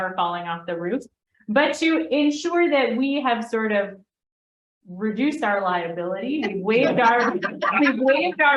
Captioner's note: laughter